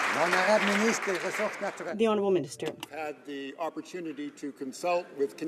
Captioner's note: some Applause